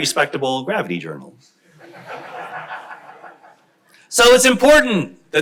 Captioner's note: crowd laughs